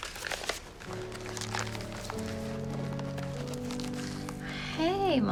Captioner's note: paper rustling; light music